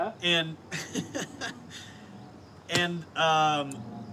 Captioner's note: laughs